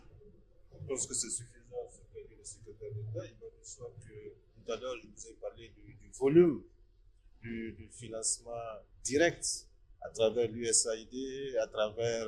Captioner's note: in French